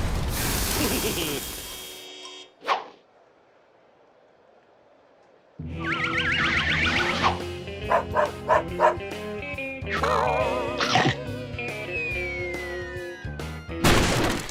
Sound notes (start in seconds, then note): 0.7 chuckles; 7.8 dog barks; 10.0 chomp; 13.8 crash